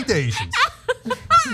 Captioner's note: laugh